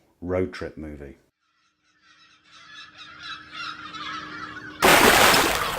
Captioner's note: gulls Calling; big Splash!